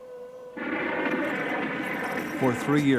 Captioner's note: airplane buzzing